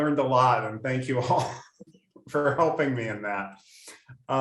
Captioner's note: laughs